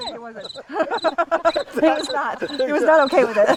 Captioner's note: people laughing